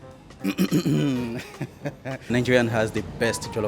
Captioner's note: clears throat and chuckles